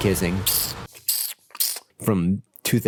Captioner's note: more kissing noises